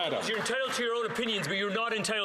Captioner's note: some Applause